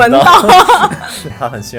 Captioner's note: hahaha